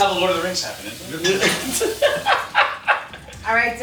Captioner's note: laughing